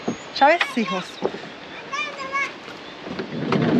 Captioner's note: child yells